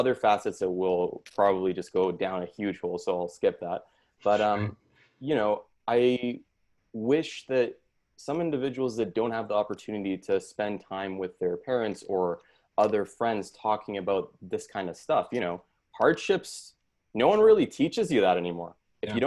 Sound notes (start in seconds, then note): 3.8 laughs